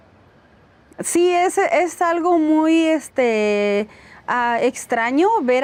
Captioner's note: speaking Spanish